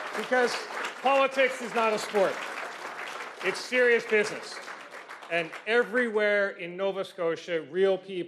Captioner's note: cheers and Applause